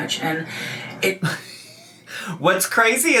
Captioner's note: laughs